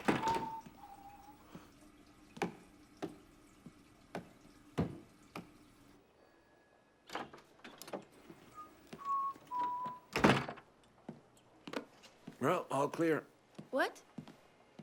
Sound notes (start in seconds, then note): 0.0 door bangs; 8.5 Gordon whistling